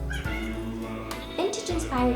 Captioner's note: cat meows